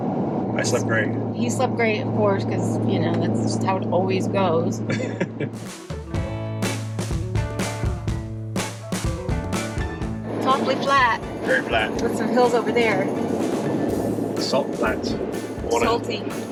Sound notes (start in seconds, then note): 4.8 chuckles; 6.4 lively music